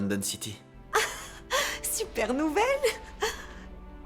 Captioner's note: laughs